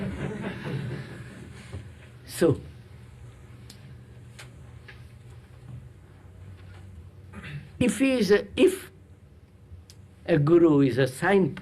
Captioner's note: laughter